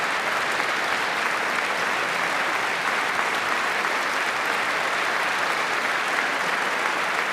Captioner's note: applause